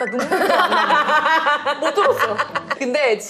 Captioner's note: ha ha ha